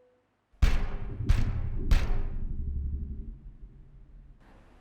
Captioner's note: thumping; ominous music